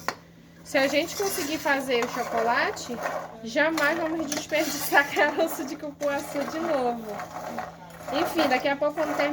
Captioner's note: laughs